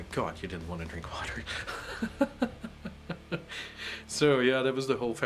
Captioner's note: laughs